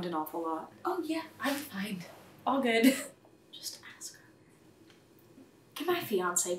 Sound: whispered

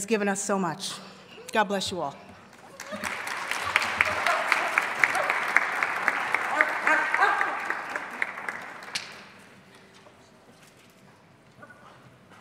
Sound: applause

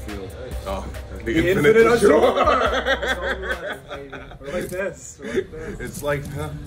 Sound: laugh

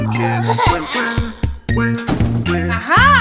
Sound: child laughing

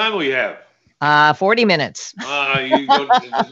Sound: laughs

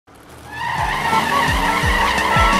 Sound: engine revving

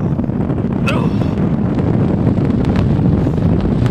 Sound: Rob groaning

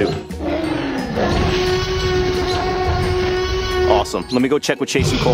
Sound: dinosaur roars

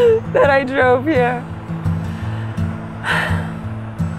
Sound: sighs

